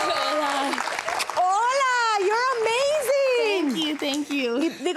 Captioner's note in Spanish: Hablan en inglés